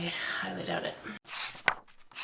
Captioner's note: pages turning